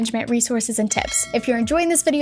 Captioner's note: bell chiming